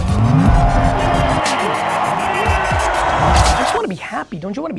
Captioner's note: crowd cheers